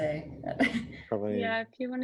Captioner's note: laughter